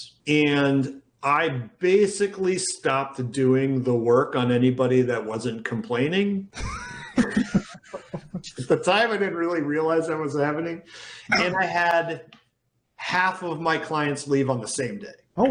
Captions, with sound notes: and I basically stopped doing the work on anybody that wasn't complaining. (both laughing) At the time, I didn't really realise that was happening, and I had half of my clients leave on the same day.